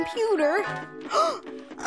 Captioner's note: gasps